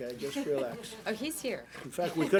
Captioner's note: laughter